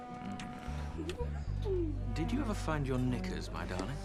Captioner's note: woman giggles